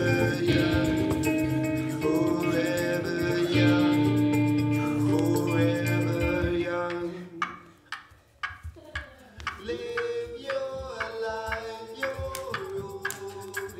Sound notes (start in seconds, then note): 7.0 ticking